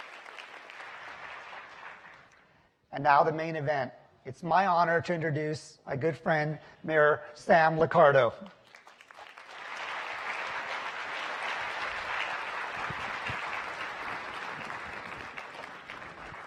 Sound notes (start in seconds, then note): 5.3 applause; 13.0 applause